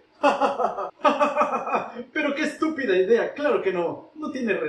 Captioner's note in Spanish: risas sarcásticas